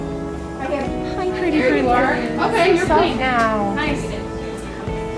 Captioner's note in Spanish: Charla de fondo